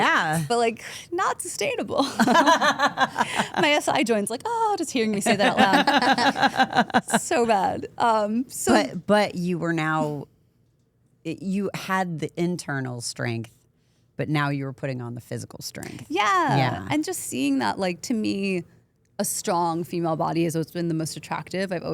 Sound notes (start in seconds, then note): 2.0 group laughs; 5.1 group laughs